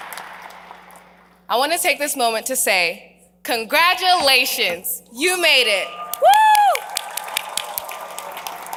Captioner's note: applause